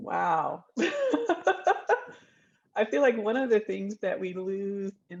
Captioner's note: laughs